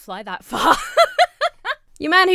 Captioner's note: laughs